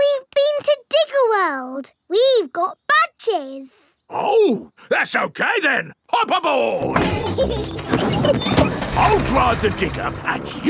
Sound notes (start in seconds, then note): 6.9 peppa and george laughing